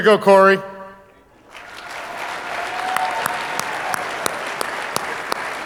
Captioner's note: audience applauding